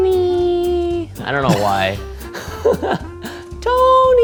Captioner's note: laughs